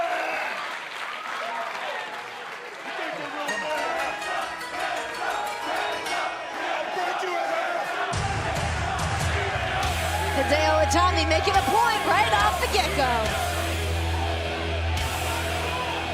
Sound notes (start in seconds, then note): 8.4 fans chanting